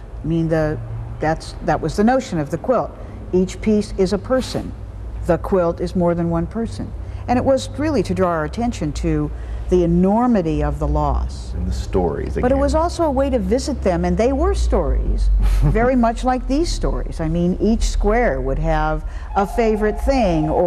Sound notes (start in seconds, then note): 15.4 chuckles